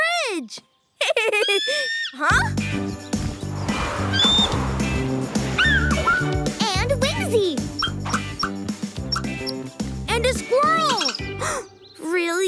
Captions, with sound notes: Hey, the dogs like our bridge! [whinnying] Huh? [squawks] [squawks] And Wingsy! And a squirrel!